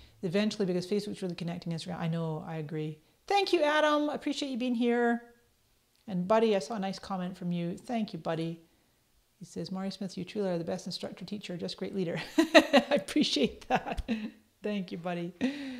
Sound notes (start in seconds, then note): 13.5 laughs